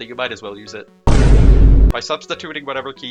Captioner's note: thudboomyboomthud also loud